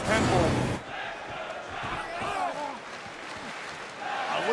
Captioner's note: crowd cheering